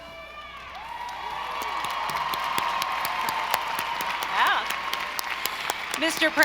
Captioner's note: audience cheering; audience applauding